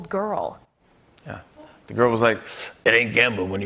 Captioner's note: deep voice